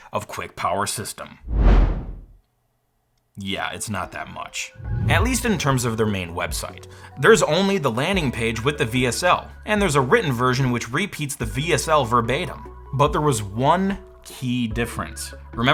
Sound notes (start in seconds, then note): 1.4 air whooshing